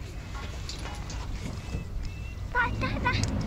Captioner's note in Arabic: قعقعة معدنية